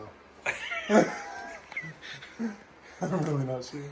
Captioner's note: laughing